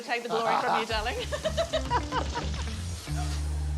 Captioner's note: laughs